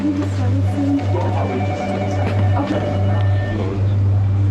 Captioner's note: phone ringing